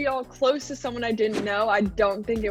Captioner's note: scene whooshing